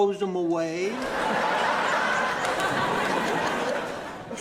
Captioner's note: audience laughing